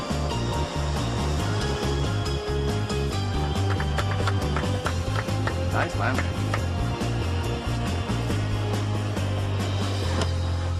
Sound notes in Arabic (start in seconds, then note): 3.6 تصفيق; 8.0 الموسيقى متفائلا